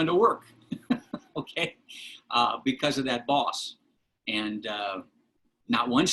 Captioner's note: laughter